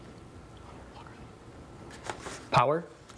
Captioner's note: team whispering